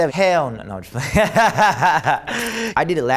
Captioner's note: laughs